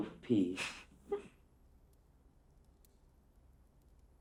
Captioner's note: Catherine giggling